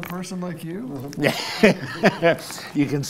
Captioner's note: laughs